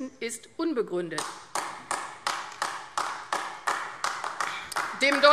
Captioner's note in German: Beifall AfD